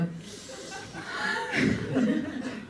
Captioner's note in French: rires